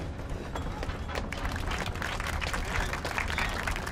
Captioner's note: applause